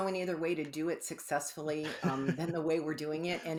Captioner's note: laughs